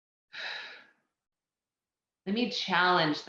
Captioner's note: exhales loudly